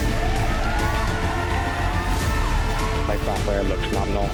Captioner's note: spectators cheering